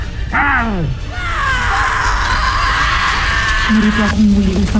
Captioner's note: screaming